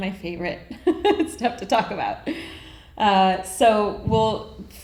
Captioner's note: laughs